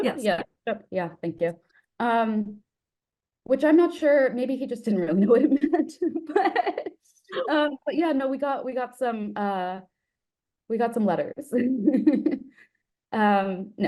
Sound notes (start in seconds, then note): 5.2 laughs; 11.6 giggles